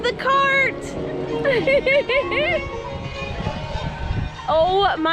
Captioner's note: laughter